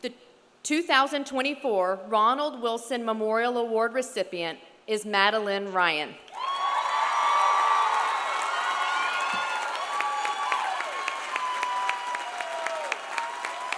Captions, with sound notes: The 2024 Ronald Wilson Memorial Award recipient is Madalyn Ryan. (audience cheering) (audience applauding)